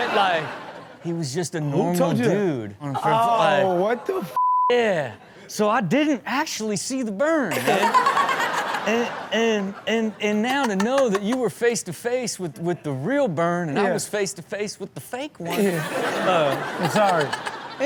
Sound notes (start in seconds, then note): 7.5 crowd laughs; 7.6 Chanel laughing; 8.5 Chanel laughs; 15.5 crowd laughs; 15.5 Chanel laughs